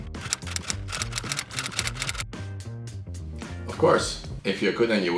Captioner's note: keyboard keys clicking